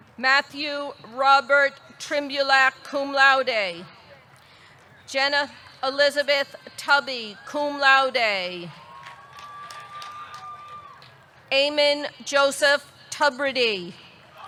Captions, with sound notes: Matthew Robert Trymbulak, cum laude. Jenna Elizabeth Tubby, cum laude. (audience cheering) (audience clapping) Eamon Joseph Tubridy.